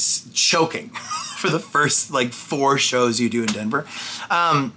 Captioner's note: laughs